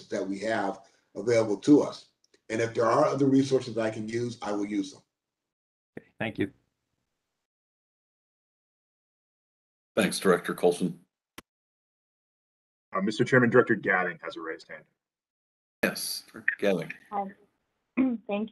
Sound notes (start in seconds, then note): 7.8 A pause